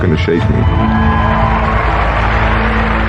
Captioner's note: cheering and applause